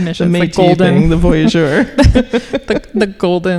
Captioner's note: laughing